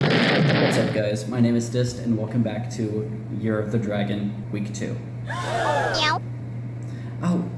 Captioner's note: gasp